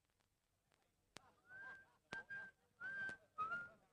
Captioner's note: whistling